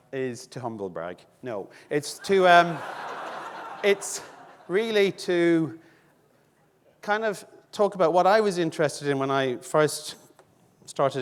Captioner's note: audience laughing